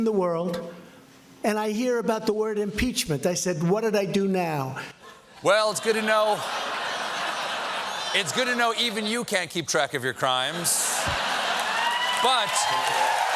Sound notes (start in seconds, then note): 9.1 laughter